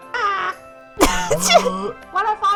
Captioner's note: wheeze